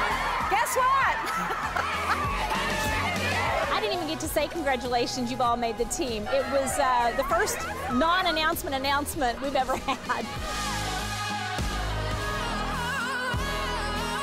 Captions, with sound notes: Guess what? (laughs) I didn't even get to say congratulations, you've all made the team. It was the first non-announcement announcement we've ever had. (laughs) (strong rock music)